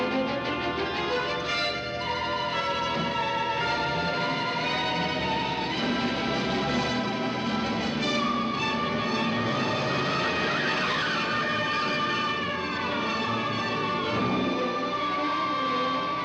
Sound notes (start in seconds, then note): 9.9 police siren wailing